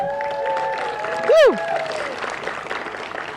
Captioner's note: applause